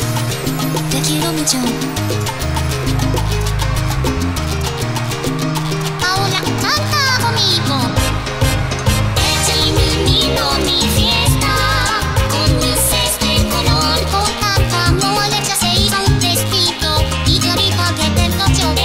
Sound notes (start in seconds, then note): 3.0 cheers